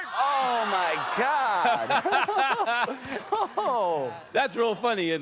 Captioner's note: laughter